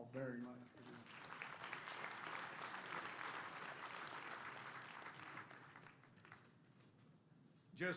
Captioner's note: applause